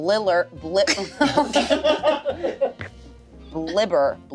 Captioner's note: everyone laughs